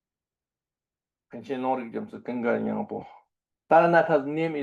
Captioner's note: tibetan